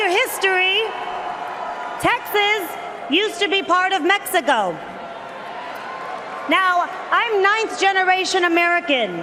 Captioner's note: cheers and Applause